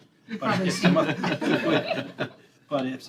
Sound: laughter

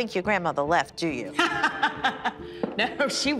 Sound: laughs

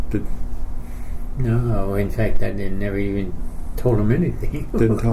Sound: chuckles

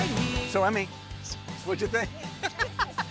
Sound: both laughing

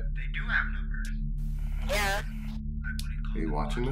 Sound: over walkie

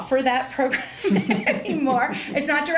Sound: laughter

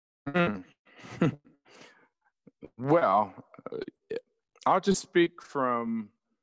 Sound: chuckles

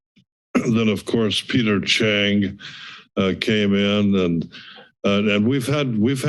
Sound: clear throat

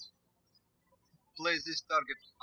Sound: birds chirping

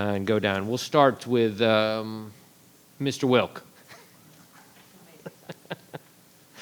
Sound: chuckles

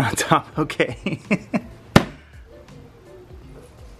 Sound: laughs

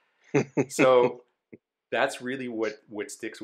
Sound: laughs

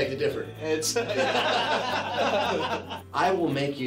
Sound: laughing

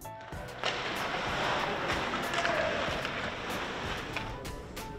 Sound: hockey sticks hitting ice

